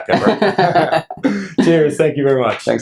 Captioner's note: laughter